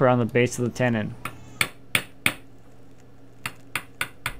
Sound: tapping

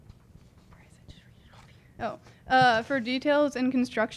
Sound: whispering

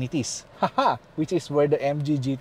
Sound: chuckles

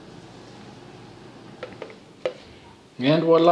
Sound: phone clatters

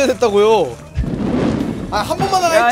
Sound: fwoosh

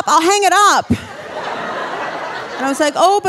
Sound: audience laughing

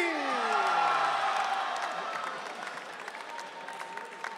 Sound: audience cheering

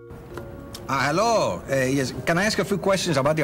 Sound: in hispanic accent

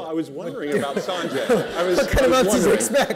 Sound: laughter

